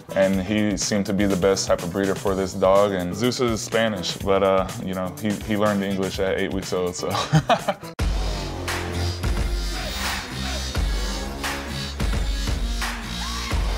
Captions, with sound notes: and he seemed to be the best type of breeder for this dog. Zeus is Spanish, but he learned English at eight weeks old, so (laughs) (dubstep music)